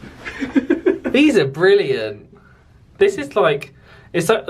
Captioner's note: laughs